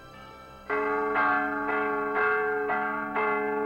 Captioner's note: bell ringing